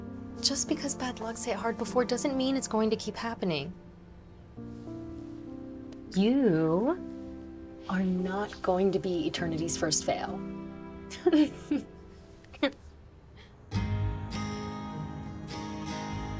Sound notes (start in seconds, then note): 11.1 chuckling; 13.5 soft music